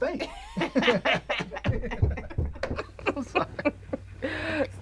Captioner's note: Cedric and Terra chuckles